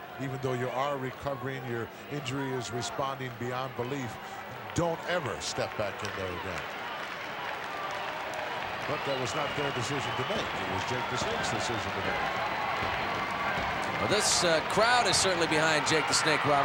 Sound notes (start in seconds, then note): 7.0 applause; 12.5 applause; 16.5 applause